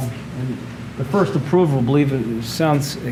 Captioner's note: none